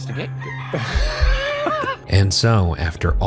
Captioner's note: rooster crows; laughs